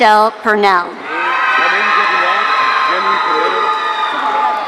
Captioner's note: audience cheering